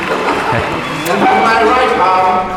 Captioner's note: applause, laughter; smacking